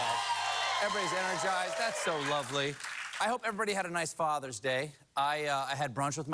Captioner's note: cheering